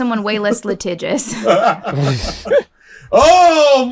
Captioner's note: chuckles